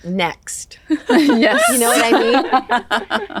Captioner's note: laugh